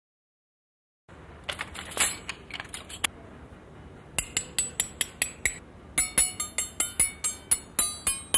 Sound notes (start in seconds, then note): 2.5 spoons rattling; 4.2 tapping spoons